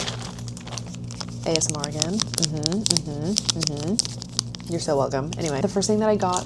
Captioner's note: crinkling bag